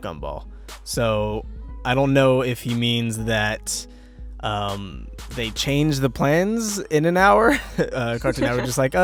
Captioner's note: chuckle